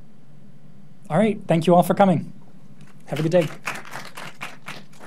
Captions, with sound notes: Alright, thank you all for coming. Have a good day. (audience clapping)